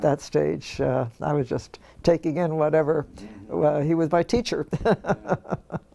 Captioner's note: laugh